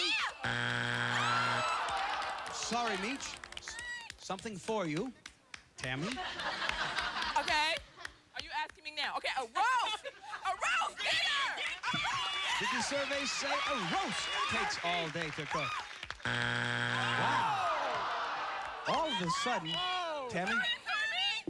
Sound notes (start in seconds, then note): 0.4 buzzer; 10.9 cheering; 16.2 buzzer